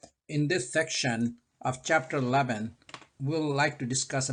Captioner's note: voiceover